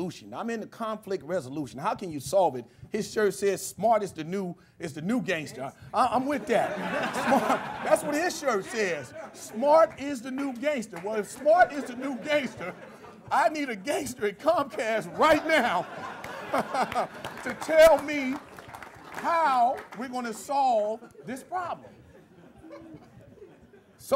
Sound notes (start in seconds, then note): 6.3 laughter; 16.2 clapping